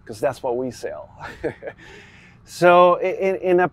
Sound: chuckles

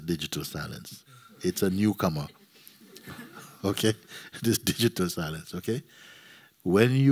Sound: laughter

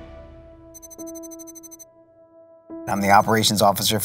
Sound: electronic beeping

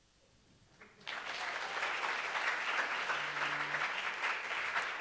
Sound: applause

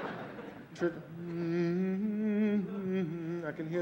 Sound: humming

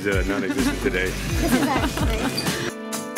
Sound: laughing; upbeat music

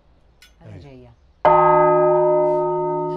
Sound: bell ringing

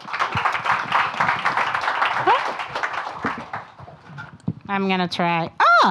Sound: audience applauding

